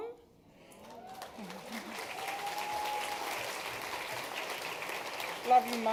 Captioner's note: cheering, applause